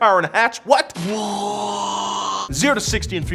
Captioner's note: man mimics explosion